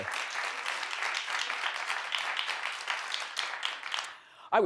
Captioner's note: audience applauds